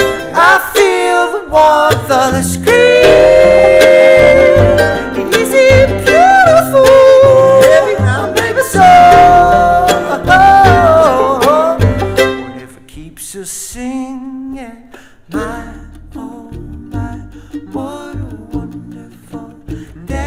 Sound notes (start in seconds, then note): 10.3 vocalizes